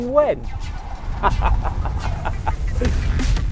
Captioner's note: laughs